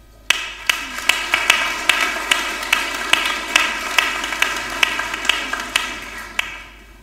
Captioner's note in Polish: oklaski